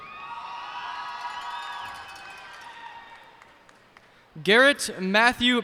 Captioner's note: cheers and applause